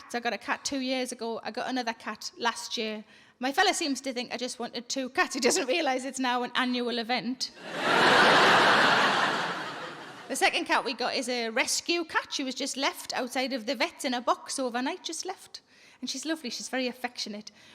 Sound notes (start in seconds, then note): 7.6 audience laughing